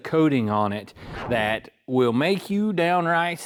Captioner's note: whooshing